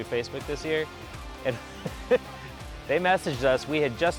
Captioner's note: laughs